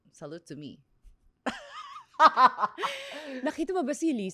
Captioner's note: laughs